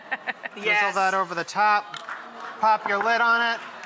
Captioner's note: laughs; audience exclaims